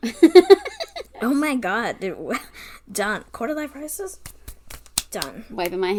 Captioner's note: hands slapping together